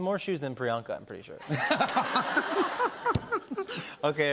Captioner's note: laughter